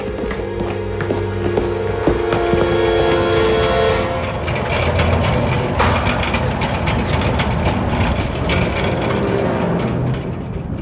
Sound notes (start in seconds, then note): 0.2 ominous music; 3.8 cart rattling